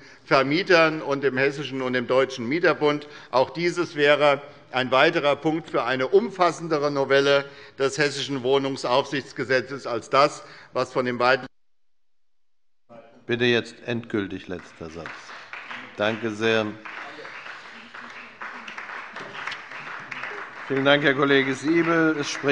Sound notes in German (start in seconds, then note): 14.2 Beifall bei der SPD